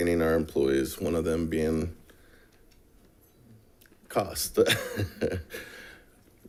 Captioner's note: chuckles